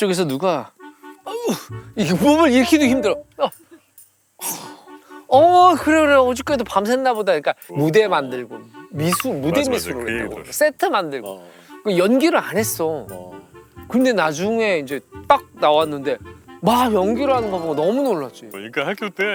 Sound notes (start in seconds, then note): 1.3 creaking